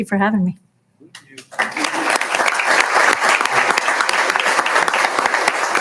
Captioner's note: applauding